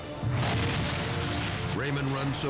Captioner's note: pump exploding